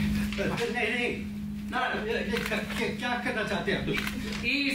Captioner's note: protests in foreign language